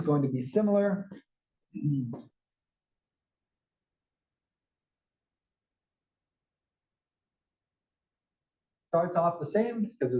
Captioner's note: cough